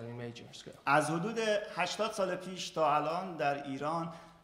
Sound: speaking in farsi

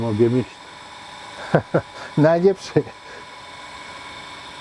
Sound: laugh

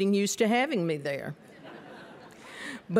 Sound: laughter

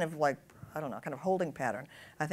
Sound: none

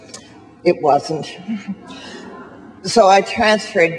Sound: chuckles

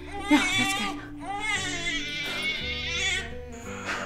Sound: baby crying

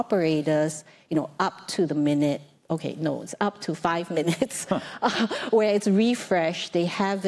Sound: laughs

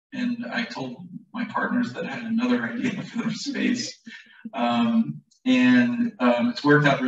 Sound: laughter

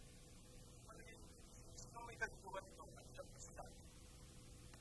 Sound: television continue to play at the background

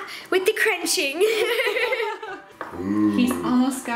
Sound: laughing

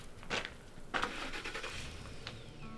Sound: truck starts

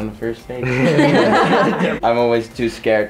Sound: everybody laughs

